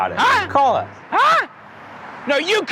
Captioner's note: man yells